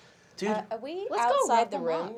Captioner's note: nasally